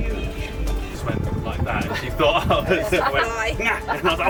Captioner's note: background conversation & laughing